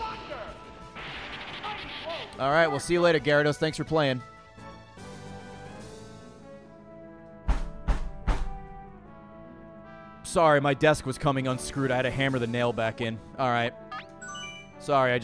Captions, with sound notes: All right well, see you later Gyarados, thanks for playing. (bangs on desk) Sorry, my desk was coming unscrewed, I had to hammer the nail back in. All right. Sorry, I